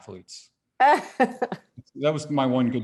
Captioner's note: laughs